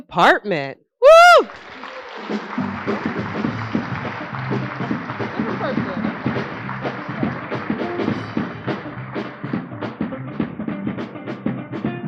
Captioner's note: applause